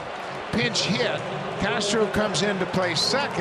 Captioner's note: cheering and Applause